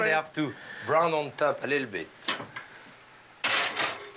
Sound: none

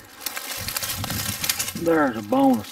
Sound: leaves rustling

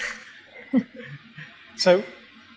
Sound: giggles

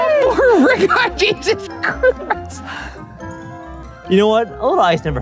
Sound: laughing

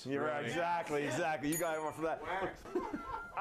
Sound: bell rings

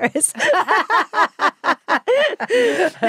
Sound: both laughing

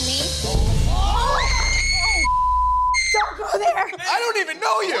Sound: beep; Snooki screaming

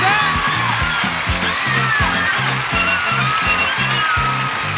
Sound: audience applauding

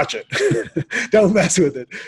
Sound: laughs

